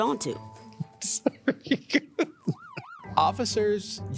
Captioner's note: laughs